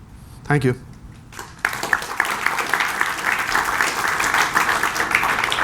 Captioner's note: applause